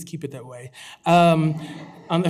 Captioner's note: laughter